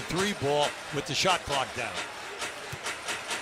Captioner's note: cheers and applause